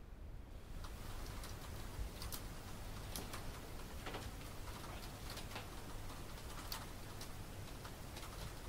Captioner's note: rain falling on roof